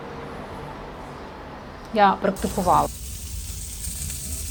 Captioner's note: sizzling sound